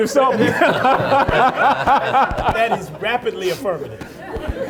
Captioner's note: everyone laughing